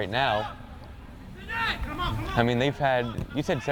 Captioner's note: players shouting